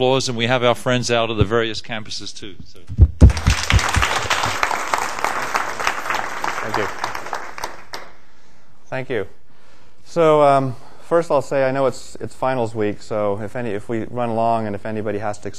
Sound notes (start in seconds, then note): 3.2 applause